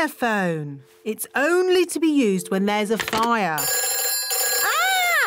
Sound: phone rings

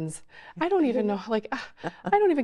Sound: laughing

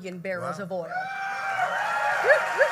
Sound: applause

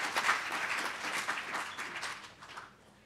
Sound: applause

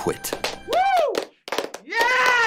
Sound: clapping

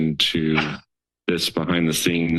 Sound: sneeze sounds

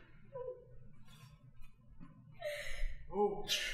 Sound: crying

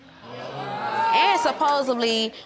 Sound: audience groaning

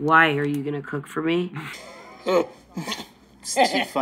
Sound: both chuckle; chuckles

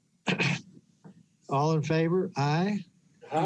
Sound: clearing throat

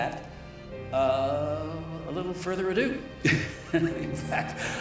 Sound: chuckles

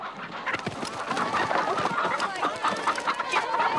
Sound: clucking

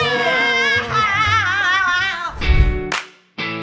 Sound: cries

